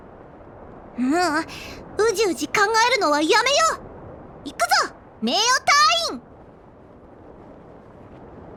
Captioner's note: sigh